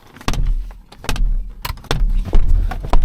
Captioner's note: headrest banging window; shoe banging window